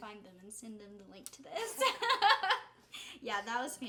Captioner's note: giggling